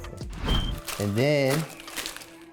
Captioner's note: fire alarm beeps